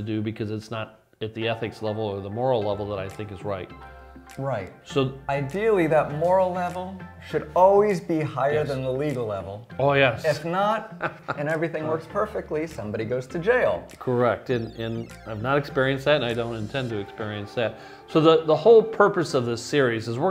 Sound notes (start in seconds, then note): 10.8 laughs